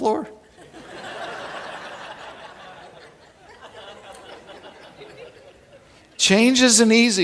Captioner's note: laughing